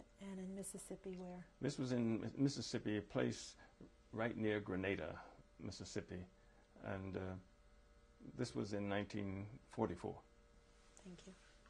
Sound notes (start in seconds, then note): none